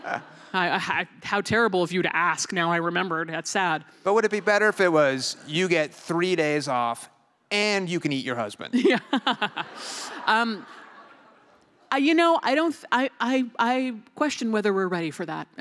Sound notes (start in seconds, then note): 8.7 laughter